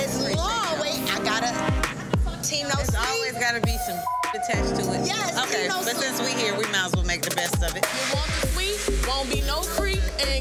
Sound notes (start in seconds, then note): 4.0 beep